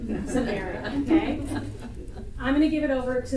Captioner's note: audience laughter